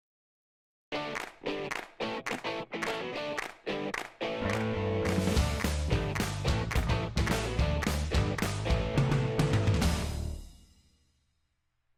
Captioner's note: claps